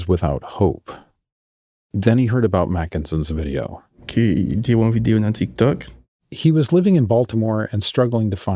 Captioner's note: speaking Creole